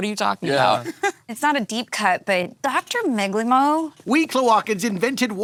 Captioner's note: laughing